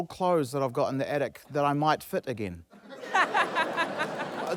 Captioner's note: laughter